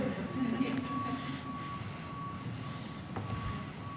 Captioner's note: audience laughing